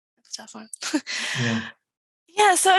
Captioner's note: chuckles